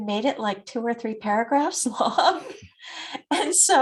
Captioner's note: laughs